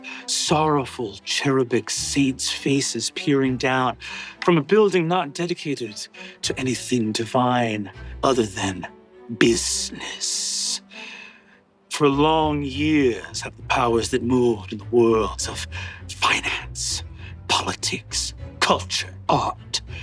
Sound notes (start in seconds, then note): none